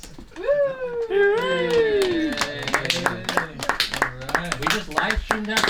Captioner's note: group cheering and laughing